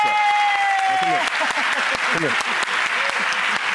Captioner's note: audience applause; claps